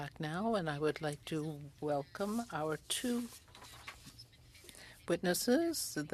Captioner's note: speaking French